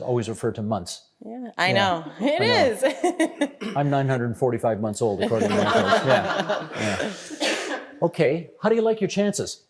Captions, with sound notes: always refer to months. Yeah, I know. It is! (Laughing) I'm 945 months old according-- (All laughing) Yeah. Okay. How do you like your chances?